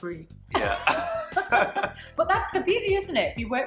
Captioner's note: laughing